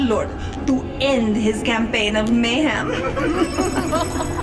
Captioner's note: laughs